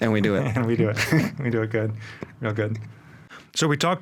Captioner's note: laughing